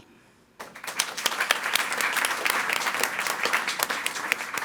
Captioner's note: audience applauding